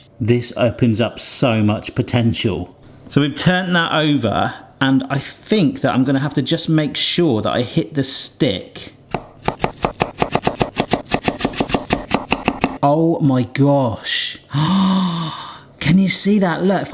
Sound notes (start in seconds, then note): 9.1 knife chopping